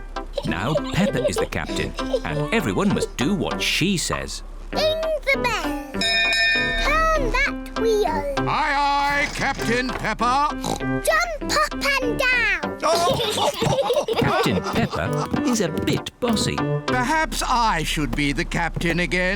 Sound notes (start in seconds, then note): 6.0 rings bell; 10.5 oinks; 12.8 all laugh